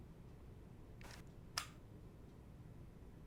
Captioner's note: lens cover clicks closed